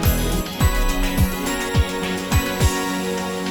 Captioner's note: none